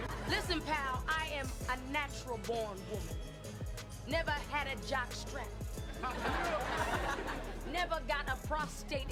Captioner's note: laugh Track; laugh Track